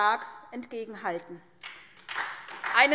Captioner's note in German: Beifall SPD